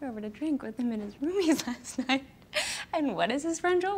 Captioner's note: laughs